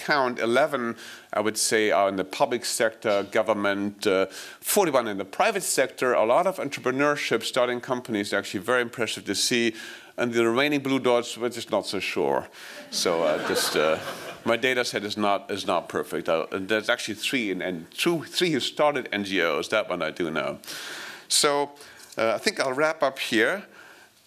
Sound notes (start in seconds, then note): 12.8 laughing